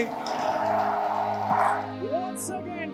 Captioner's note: crowd cheering